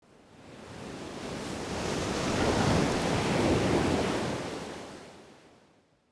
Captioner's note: waves crashing